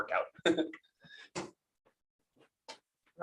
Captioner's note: laughs